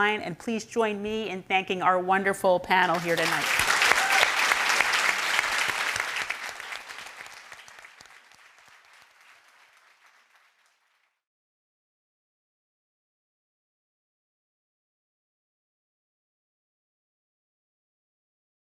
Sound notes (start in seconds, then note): 2.8 audience claps; 2.9 audience cheers